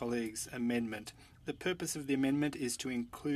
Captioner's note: speaking French